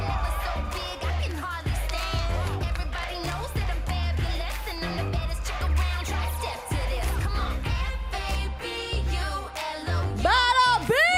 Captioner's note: cheers and applause